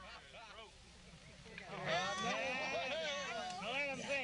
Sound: cheers

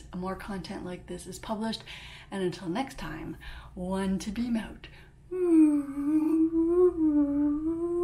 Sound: whoooo

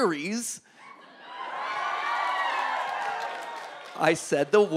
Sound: audience cheering

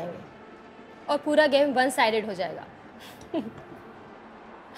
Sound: laughs

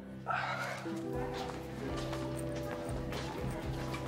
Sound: indistinct chatter

